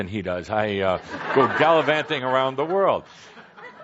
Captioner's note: laughter